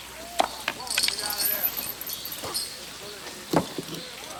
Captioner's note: chain clinks